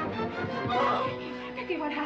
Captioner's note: dramatic music; pouting loudly